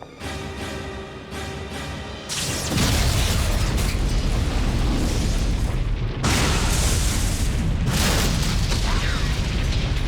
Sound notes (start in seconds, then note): 0.0 dramatic music; 2.6 explosion booms